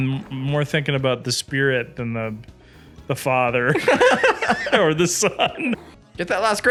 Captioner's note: laughs